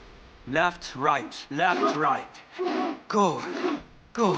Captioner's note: students grunting